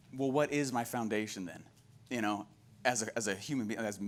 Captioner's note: none